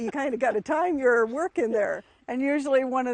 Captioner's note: laughs